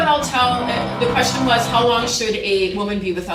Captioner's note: tool motor whirring